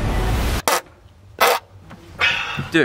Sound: farts

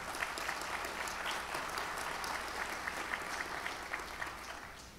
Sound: audience applauds

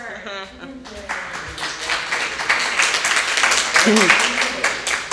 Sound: audience applauding

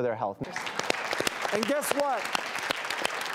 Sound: audience applauds

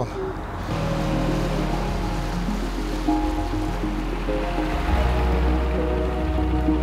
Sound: boat spluttering; dramatic music

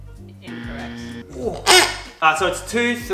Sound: squeaks

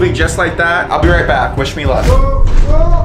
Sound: moans

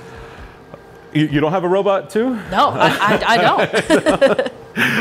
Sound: both laugh

